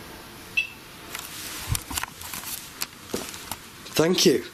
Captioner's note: beeping